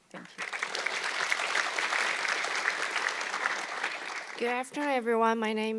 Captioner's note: audience clapping